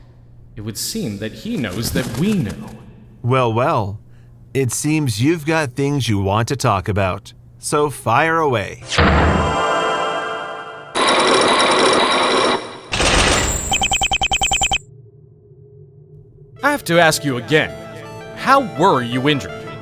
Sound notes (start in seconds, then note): 8.8 The Magatama hums intensely; 10.8 chains grinding!; 12.7 locks sealing!